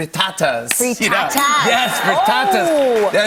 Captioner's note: ding!